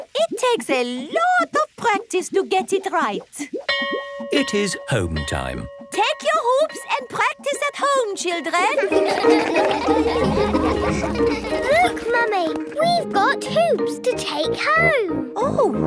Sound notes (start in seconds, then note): 3.7 bell rings; 8.7 all laugh